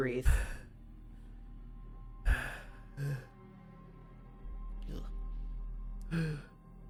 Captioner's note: labors to breathe